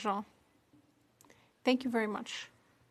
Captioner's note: speaking in French